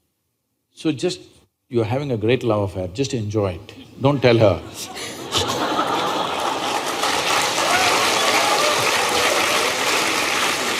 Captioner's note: laughter/Applause